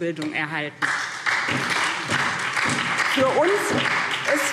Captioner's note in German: Beifall SPD